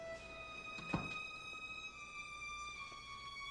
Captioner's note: door closes